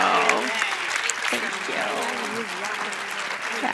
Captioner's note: cheers and applause